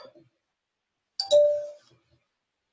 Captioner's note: bell chimes